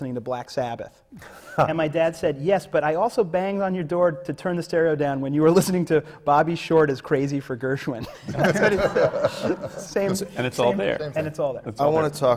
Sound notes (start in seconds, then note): 1.2 laughs; 8.0 laughter